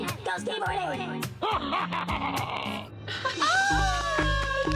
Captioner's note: sinister laughter